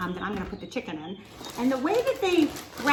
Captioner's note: paper rustles